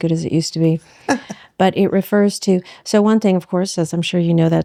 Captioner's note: laughs